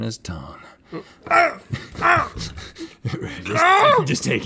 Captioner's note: crying in protest